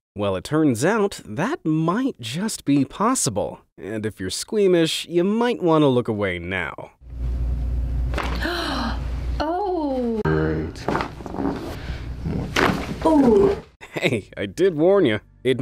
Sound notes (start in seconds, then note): 8.3 neck cracks; 11.0 bones crack